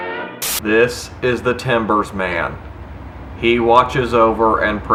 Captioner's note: man speaking slowly